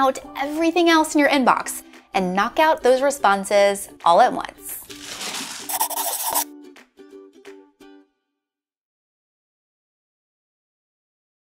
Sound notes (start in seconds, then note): 4.6 bright music; 5.3 pencil scribbling